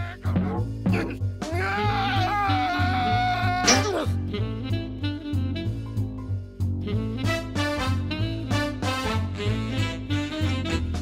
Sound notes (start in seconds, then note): 1.6 yelling